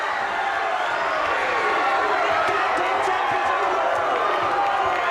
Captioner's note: audience cheers